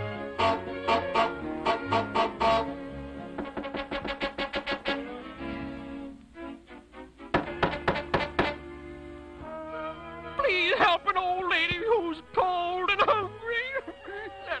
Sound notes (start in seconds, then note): 0.4 goose Honks; 3.3 knocking; 7.3 knocking